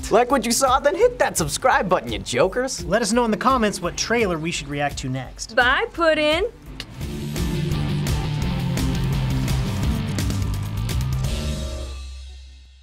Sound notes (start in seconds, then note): 6.7 clicks tongue; 7.1 industrial music